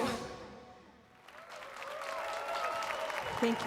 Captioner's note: applause and cheers